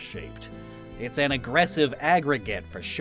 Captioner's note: fake Italian accent